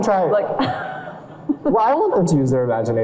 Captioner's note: audience laughs